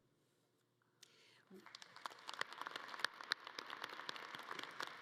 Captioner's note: audience clapping